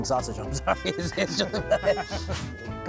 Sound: laughs

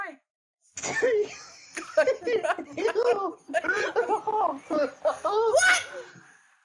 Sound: Giggles in Troll

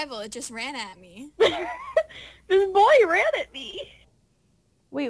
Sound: laughs

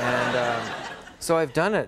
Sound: applause

